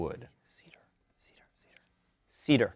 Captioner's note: whispering